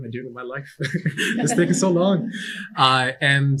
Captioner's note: chuckling